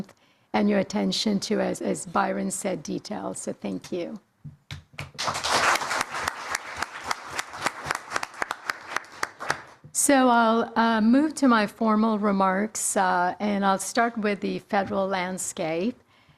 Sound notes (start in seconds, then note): 8.2 applause